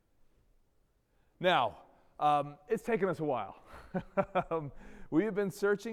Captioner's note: chuckles